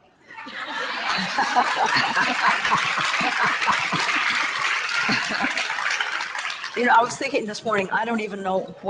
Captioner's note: audience laughter and applause